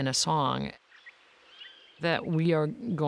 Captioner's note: birds chirping